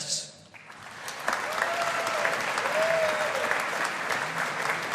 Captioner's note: audience applauding